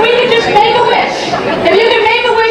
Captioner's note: audience murmuring